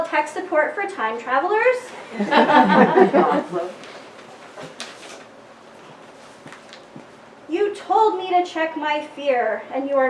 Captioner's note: laughter